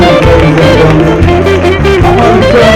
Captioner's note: audience applauding